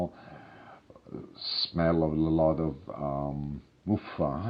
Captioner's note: in foreign language